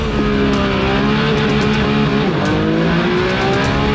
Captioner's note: engine revving